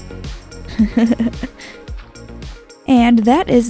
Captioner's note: laughing